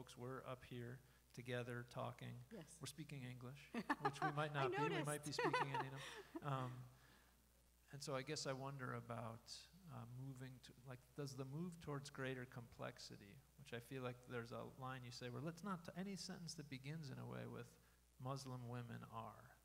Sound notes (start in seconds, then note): 3.8 laughing